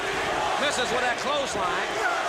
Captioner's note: crowd cheering